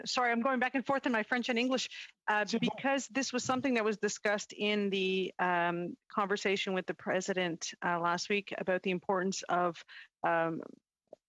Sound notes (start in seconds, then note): 2.7 speaking Alternate Language